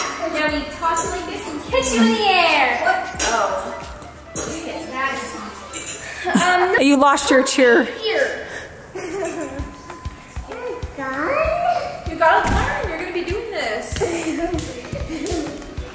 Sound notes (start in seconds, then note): 4.3 people mumbling; 8.9 giggling; 14.0 giggling